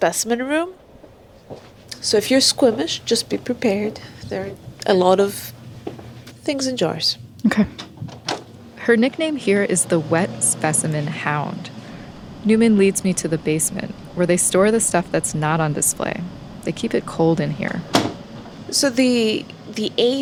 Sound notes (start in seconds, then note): 6.9 sound of a door opening; 15.7 sound of a door closing